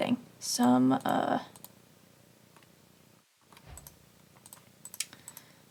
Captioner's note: a pause and a sigh